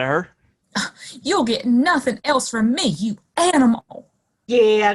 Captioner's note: huffs